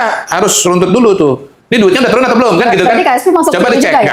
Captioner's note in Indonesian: tertawa